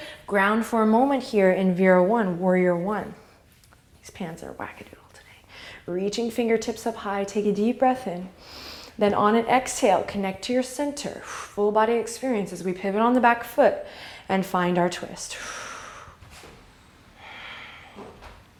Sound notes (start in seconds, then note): 8.4 inhale; 11.2 exhale; 17.1 exhale